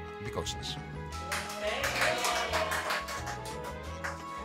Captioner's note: applause